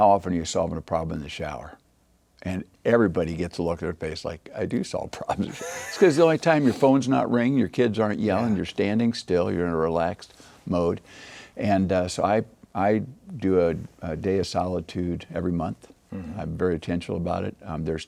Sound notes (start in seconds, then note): 5.3 laughing